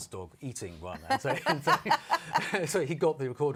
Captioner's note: laughter